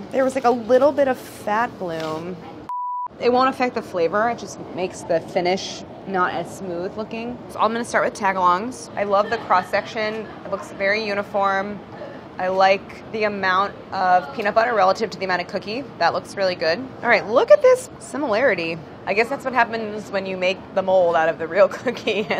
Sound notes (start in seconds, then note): 2.6 beeping